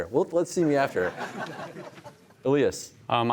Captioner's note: laughter